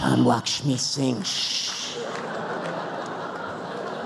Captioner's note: laughter